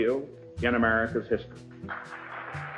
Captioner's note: applause